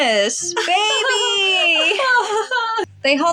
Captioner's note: gleeful Giggles